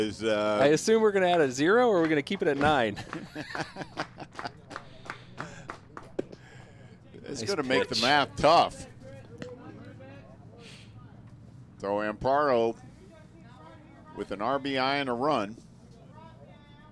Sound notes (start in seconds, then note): 6.6 laughter